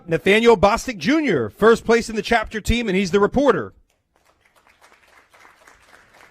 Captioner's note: applause